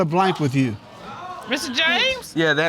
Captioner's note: audience exclaiming